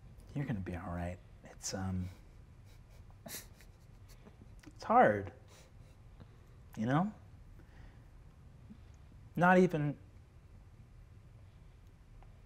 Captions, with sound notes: You're gonna be all right. (players chuckling softly) It's hard, you know? Not even...